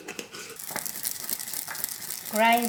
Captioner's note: grinding